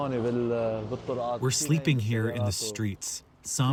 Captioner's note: through translator